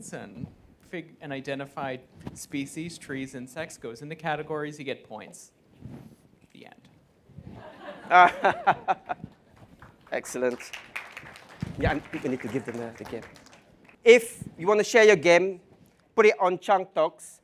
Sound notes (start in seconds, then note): 7.6 laughing; 9.5 applause